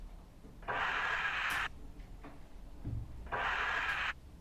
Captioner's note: scraper swooshing